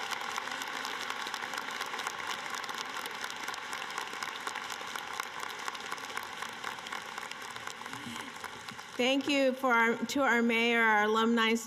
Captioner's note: cheering and applause